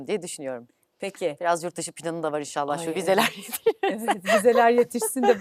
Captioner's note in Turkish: kahkaha